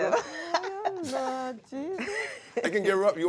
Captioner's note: laughter